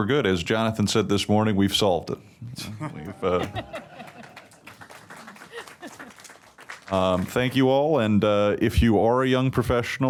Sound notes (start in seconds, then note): 3.4 applause